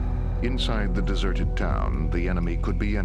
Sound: voiceover

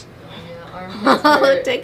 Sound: laughs

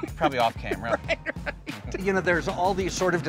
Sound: laughs

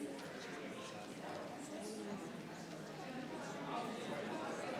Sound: people chattering

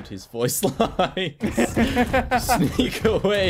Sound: laughter

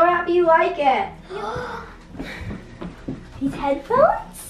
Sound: gasps

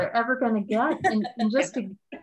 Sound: laughing

